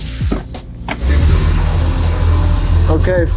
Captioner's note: engine revving